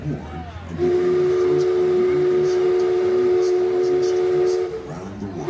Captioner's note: Mark Twain Riverboat whistle blowing